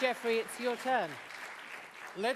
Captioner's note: applause